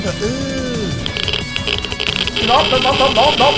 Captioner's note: geiger counter sounds